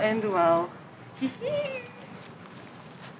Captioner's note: giggles